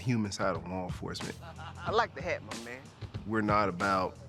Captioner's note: laughing